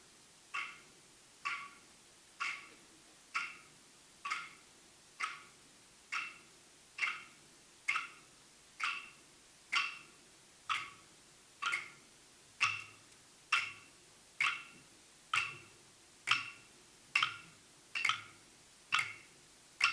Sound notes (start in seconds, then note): 13.4 sticks banging rhythmically continues